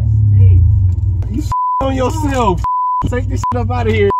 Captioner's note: beep